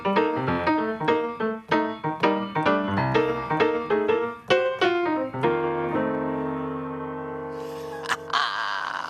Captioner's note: laughs